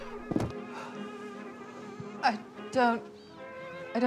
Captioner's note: sighing